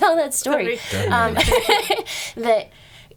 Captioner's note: laughing